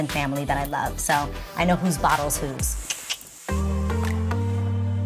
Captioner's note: tongue clicks; mid-tempo relaxing music